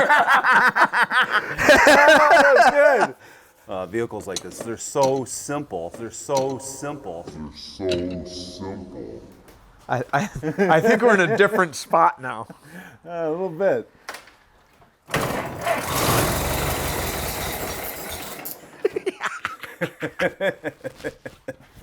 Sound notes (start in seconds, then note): 0.0 guys laugh; 14.9 engine roars; 18.6 guys laugh